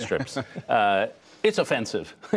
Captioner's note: laughter